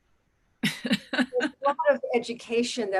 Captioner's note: chuckles